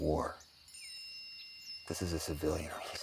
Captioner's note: phone dings